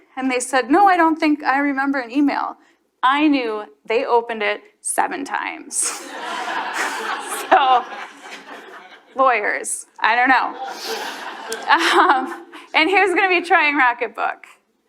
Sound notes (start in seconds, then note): 5.8 chuckling; 5.8 audience laughs; 10.5 chuckles